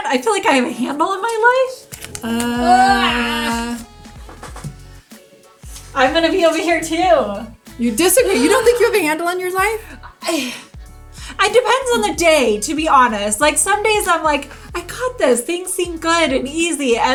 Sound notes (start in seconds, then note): 2.2 both wailing; 2.6 bright music